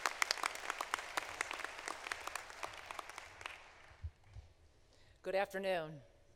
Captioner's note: applause